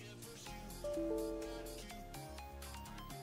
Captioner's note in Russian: Звук ошибки Windows 10